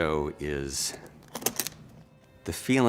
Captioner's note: unbuckling